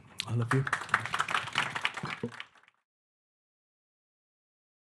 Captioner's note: audience applauding